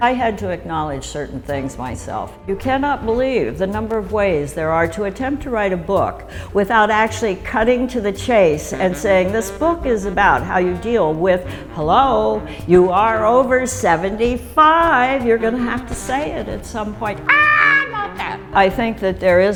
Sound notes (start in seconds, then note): 17.2 screams